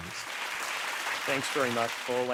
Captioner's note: audience clapping